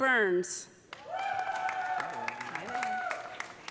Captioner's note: audience applauding; audience cheering